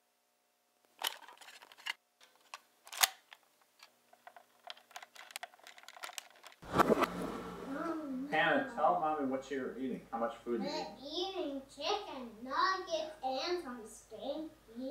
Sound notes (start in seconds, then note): 8.4 on TV